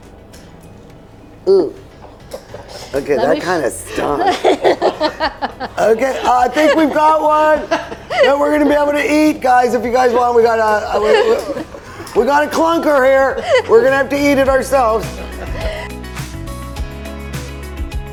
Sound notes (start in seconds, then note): 1.5 grunts; 3.0 laughs; 15.3 upbeat music